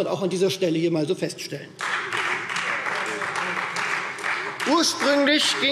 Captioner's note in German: Beifall Freie Demokraten